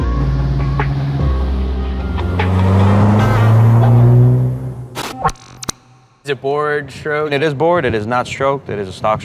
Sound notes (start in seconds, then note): 0.0 engine growls